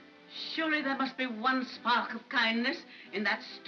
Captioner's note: none